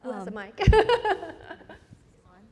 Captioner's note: presenter laughs